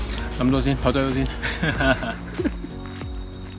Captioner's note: laugh